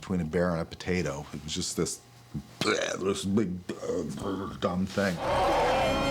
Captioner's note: grunts